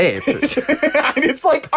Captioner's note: laughing